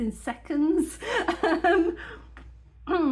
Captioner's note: laughing